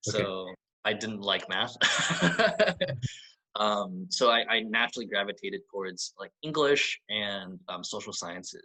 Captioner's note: laughs